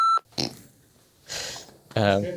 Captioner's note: beep